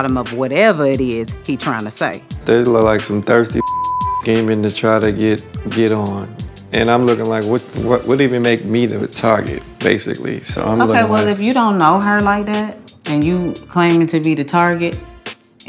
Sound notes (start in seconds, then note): 3.6 beep